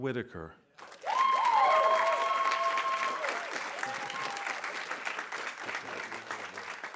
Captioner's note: audience applauding; audience cheering